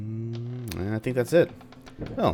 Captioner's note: thunder